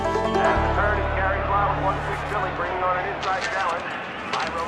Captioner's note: indistinct chattering on TV